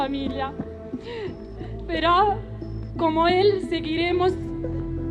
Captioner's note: sobs